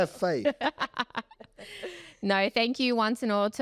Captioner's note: laugh